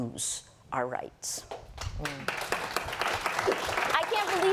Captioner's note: applause